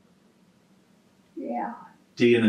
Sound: laughs

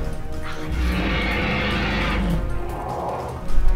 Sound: roaring

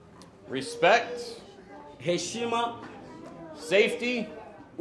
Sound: speaking foreign language

